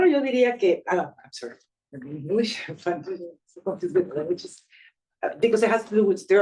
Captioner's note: speaking Spanish; speaking Spanish